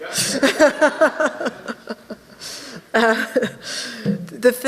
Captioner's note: laughing